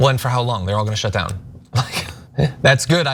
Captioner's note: laugh